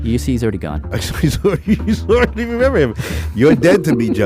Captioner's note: laughs